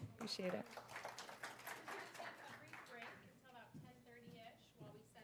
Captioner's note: applause